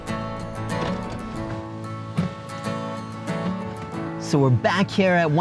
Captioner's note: car engine rumbles; car window opens